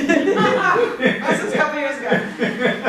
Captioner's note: laughter